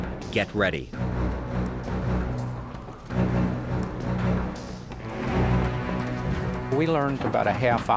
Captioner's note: soldiers running